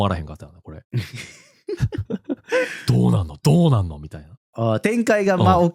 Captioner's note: laughs